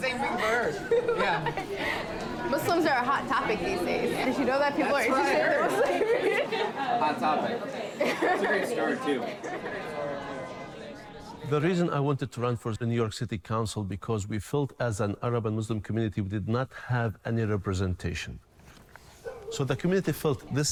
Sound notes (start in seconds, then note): 0.3 laughs; 5.5 laughter; 7.2 laughs